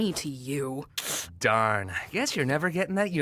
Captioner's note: hisses through teeth